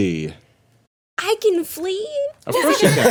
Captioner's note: everyone laughing